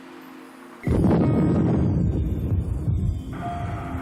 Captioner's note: land explodes